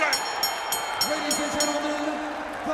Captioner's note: bell ringing